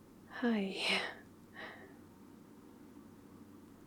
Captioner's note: breathless